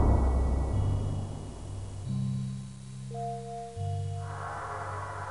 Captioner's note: none